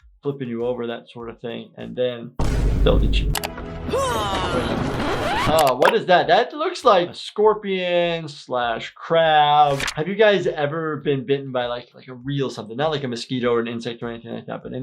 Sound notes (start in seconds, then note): 3.9 Anne grunting; 4.8 tape rewinding